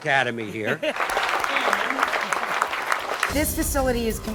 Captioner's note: applause